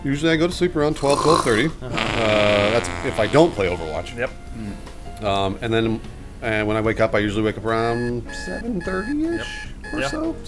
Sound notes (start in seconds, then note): 1.0 blowing raspberry; 9.2 alarm buzzing